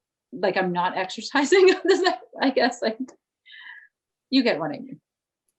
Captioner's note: chuckles